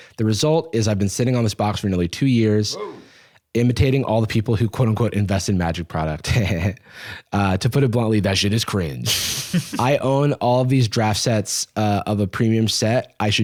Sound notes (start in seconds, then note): 6.6 laughs